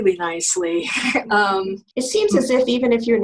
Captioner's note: laughing